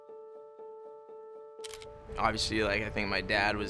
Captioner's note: camera lens clicks